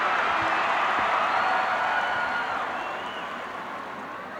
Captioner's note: crowd cheers